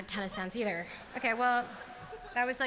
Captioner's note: laughter